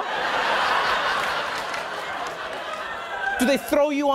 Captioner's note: audience laughing